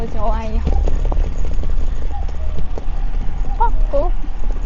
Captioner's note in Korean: 들려오는 뻐꾸기 소리